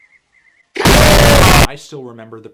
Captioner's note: lowering in pitch; distorted WTF BOOM